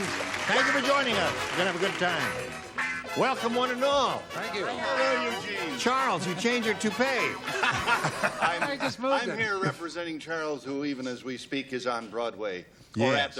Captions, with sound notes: - Hi, John. Thank you, friends. Thank you for joining us. You're going to have a good time. Welcome, one and all. - Thank you. - Hello, Eugene. - Charles, you changed your toupee. [laughter] - No, he just moved it. - I'm here representing Charles, who even as we speak